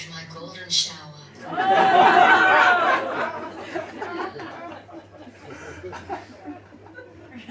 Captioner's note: audience laughs